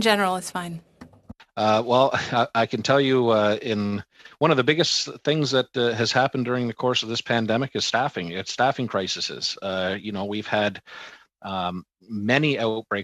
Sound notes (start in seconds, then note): 5.3 speaking French